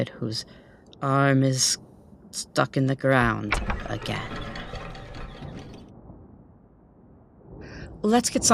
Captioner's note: she pulls a lever. Brief mechanical sounds